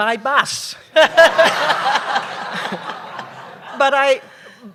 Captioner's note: laughter